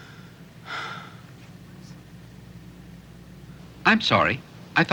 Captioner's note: Casey sighs